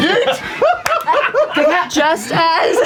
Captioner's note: laughter